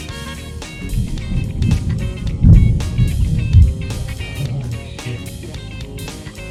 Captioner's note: thunder rumbling